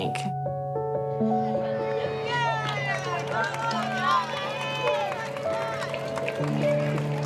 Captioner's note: children murmuring; crowd applauding